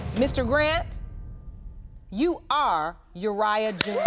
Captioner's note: audience applauding